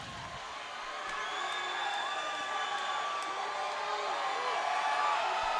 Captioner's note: audience shouting